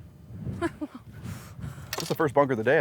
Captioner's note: laughs